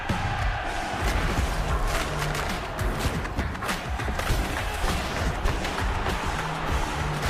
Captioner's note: crowd cheering